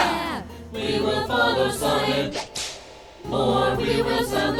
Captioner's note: cracks whip